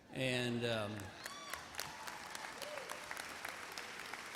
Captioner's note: laughter, applause